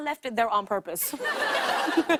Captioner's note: laughter